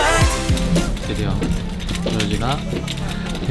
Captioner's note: heart pounding